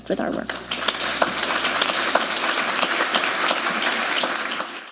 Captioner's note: applause